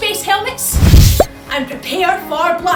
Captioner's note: woosh